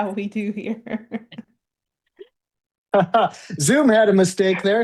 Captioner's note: laughing